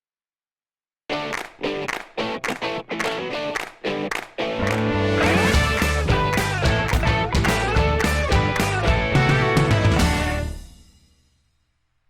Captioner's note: claps